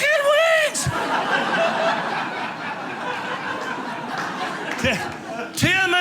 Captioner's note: audience laughing